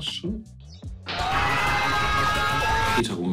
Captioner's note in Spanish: Gritos